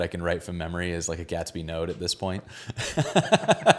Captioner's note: laughing